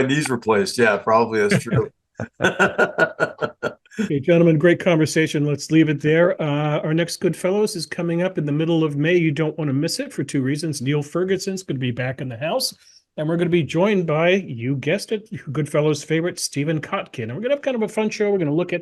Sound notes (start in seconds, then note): 0.0 laugh; 2.2 laugh